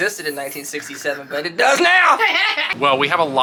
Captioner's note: laughing